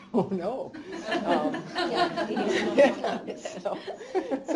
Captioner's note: laughter